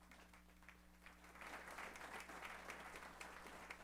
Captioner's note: applause